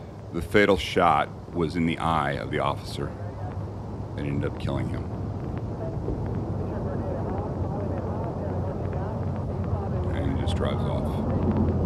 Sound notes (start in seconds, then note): 5.6 radio sound